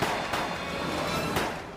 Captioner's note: gunshots